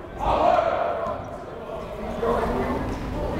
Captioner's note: yelling